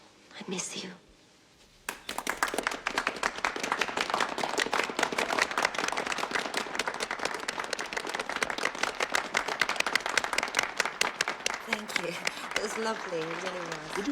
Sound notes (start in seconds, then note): 1.7 audience applauding